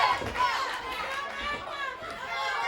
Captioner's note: crowd chatter